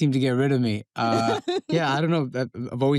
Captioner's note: princess laughs